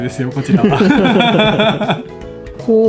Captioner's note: laughs